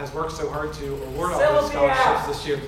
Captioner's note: audience member shouts